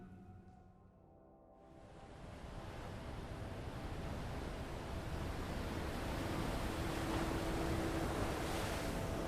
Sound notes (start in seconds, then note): 1.7 soft music; 2.0 waves splashing